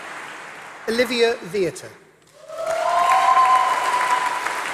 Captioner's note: applause